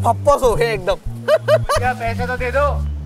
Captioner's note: Laughing